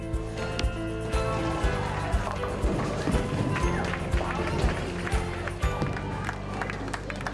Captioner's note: bowling sounds; applause